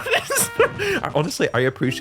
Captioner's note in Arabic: يضحك